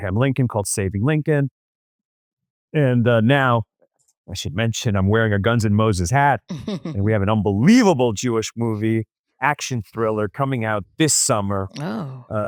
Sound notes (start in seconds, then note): 6.5 laughs